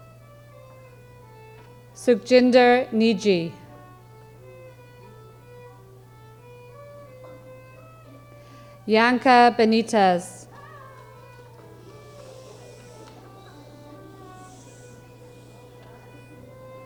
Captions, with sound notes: Supjinder Nidji. Janka Benitez. (audience whooping) (audience shushing)